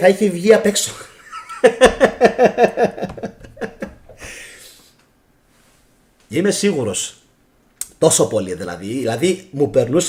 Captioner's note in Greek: γέλια